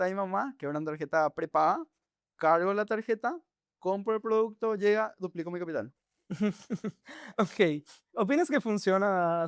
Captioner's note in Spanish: risas